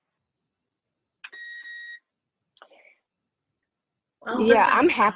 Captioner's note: device beeps